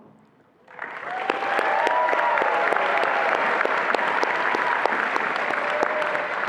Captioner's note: attendees applauding and cheering